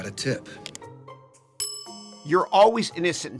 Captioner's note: bell ringing